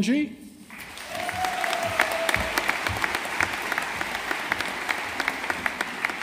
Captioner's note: audience applauding